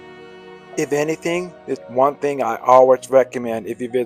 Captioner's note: voiceover